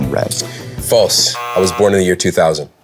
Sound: buzzer

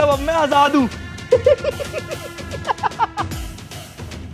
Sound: laughing

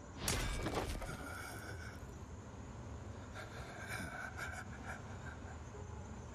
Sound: Uther breathing heavily

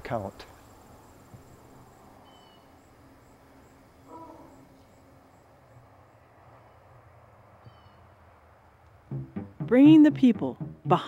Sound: silence

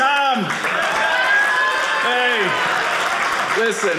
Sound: audience cheering

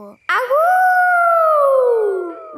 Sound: howling

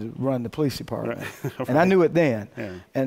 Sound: laughs

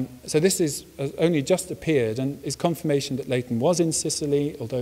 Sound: none

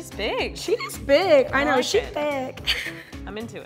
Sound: giggles

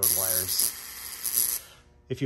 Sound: zapping

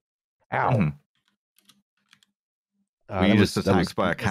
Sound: keyboard tapping

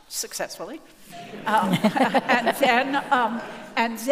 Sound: audience laughing

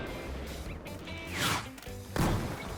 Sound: vvvvzhooom!!!!; boom!

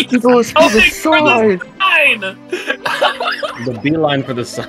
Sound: laughter; laughter

